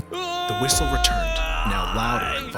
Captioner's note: screams